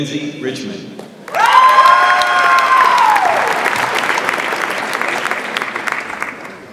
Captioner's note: audience applauds and cheers